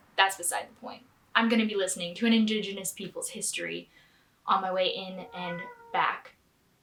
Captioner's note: cat meows